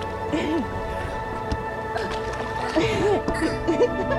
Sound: laughs

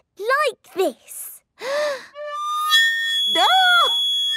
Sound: off-key; inhaling deeply

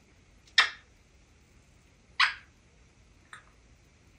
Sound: kisses

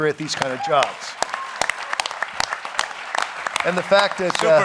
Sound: applause

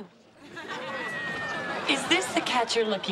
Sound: audience laughs

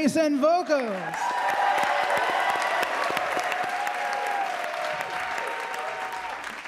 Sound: audience applauding; audience cheering

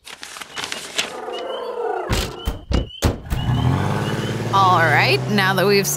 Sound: pleased raptor sounds

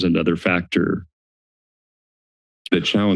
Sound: silence

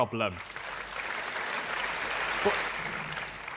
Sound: applause

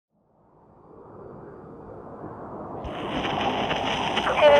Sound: wiind blows, old recording of shaman song

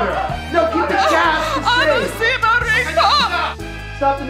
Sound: talking over music

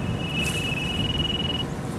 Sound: phone Rings

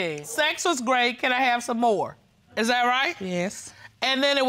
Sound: reading

